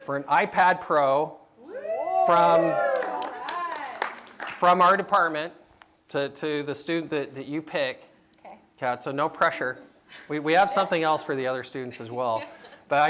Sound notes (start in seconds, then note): 1.6 cheering